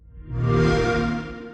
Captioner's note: xbox sound